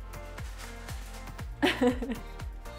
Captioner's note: laughter